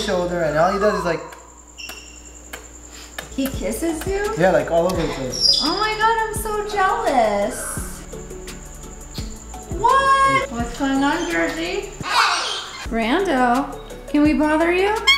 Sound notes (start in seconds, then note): 9.1 kisses